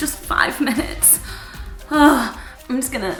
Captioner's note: sighing